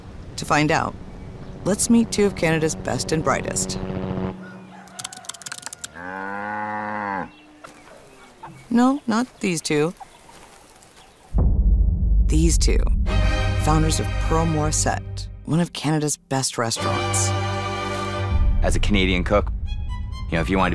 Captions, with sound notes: To find out, let's meet two of Canada's best and brightest. (helicopter whirring) (rooster crowing) (text typing) (cow mooing) No, not these two. (dramatic music) These two. Founders of Pearl Morissette, one of Canada's best restaurants. - As a Canadian cook, you know, if you wanted